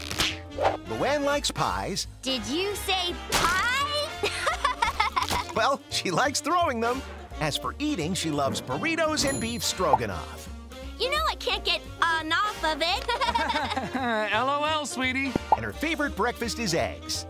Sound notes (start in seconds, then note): 4.2 laughing; 12.9 laughing; 13.0 chuckles